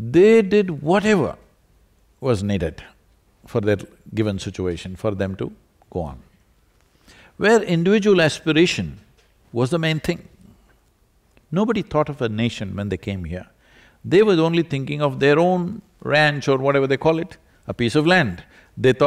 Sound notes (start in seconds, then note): none